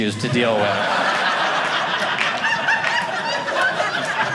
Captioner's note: audience laughing